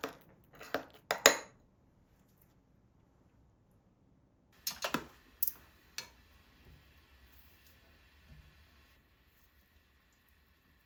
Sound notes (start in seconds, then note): 9.8 sizzling